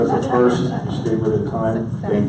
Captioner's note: audience laughs